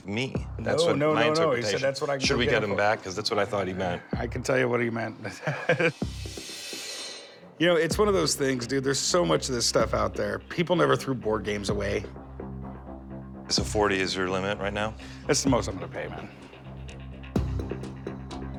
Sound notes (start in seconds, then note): 5.2 laughing